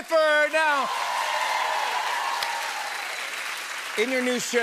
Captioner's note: cheers and applause